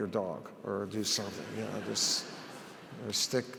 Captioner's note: audience laughs